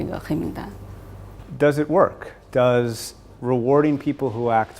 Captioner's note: none